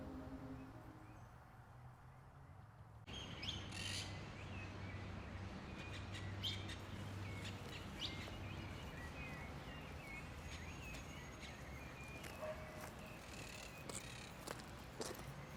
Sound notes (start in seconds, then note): 3.3 birds chirp; 10.7 footsteps crunch